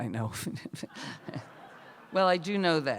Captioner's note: laughter